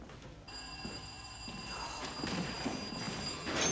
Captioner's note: ringing